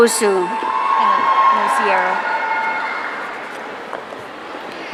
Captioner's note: audience cheering